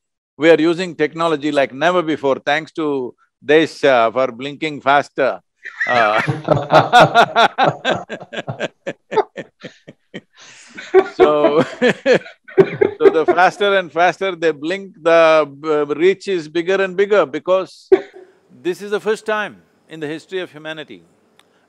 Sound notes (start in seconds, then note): 5.6 laughter